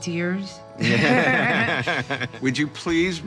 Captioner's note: both laugh